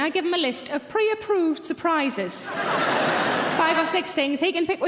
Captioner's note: audience laughing